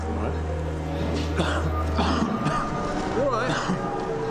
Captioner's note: coughing